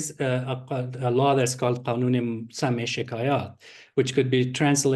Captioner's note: non-english speech